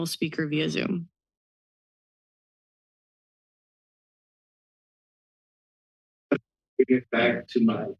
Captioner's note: silence